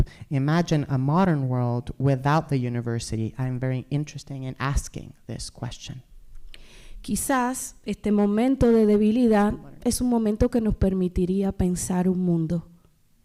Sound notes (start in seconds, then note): 6.8 speaking spanish